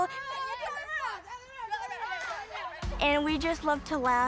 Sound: group chattering

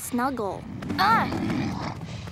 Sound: grunting

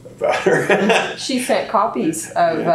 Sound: laughs

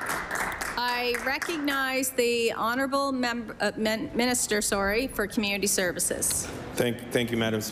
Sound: applause

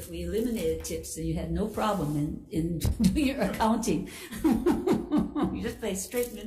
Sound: laughs

